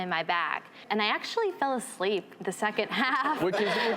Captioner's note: laughing; laughs